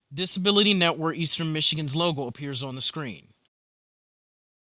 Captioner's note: voiceover